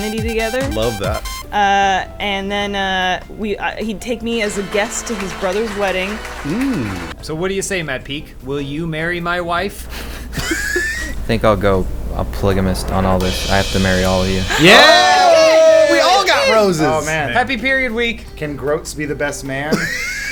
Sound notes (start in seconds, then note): 10.2 wheezing; 14.4 cheering